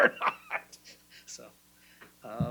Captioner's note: laughing